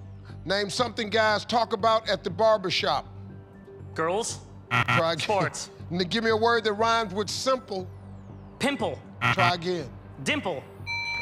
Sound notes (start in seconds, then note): 4.7 buzzer; 9.2 buzzer